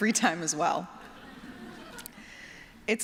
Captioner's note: laughter